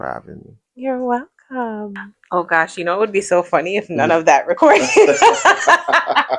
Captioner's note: laughter